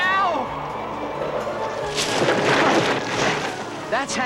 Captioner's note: loud thud, leaves rustling